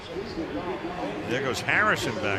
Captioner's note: pa announcement